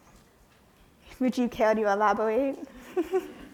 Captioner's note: chuckles